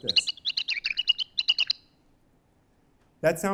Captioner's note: chirping